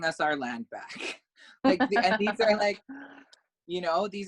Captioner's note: laugh